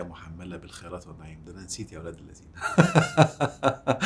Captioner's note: laughs!